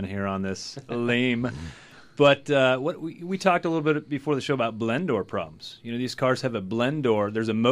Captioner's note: laughs